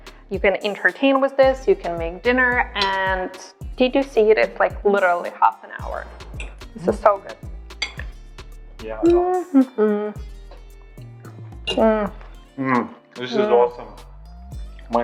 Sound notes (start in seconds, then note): 8.9 humming; 11.7 both moan